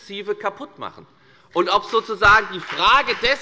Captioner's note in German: Beifall bei der FDP